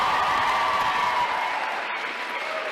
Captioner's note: applause